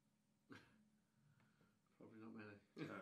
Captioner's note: chuckles